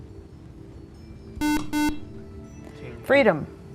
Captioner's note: buzzer